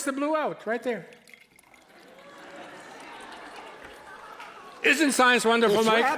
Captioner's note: liquid dripping, audience laughing